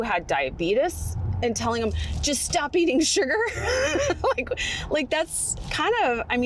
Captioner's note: laughs